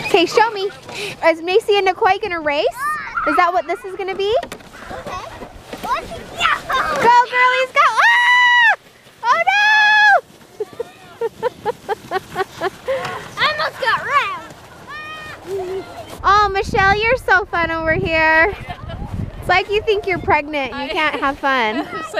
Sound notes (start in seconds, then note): 10.5 laughing; 18.5 laughing